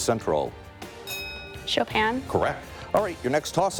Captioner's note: bell dinging